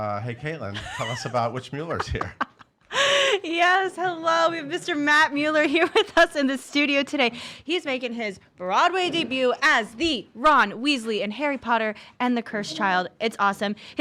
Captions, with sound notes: - Hey Caitlin, tell us about which Mueller's here. - (laughing) Yes, hello we have Mr. Matt Mueller here with us in the studio today. He's making his Broadway debut as the Ron Weasley in "Harry Potter and the Cursed Child", it's awesome.